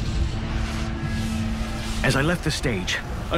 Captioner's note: fire roaring